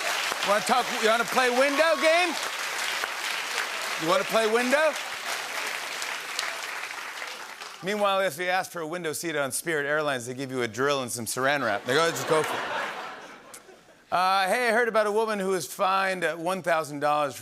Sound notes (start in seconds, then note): 5.2 applause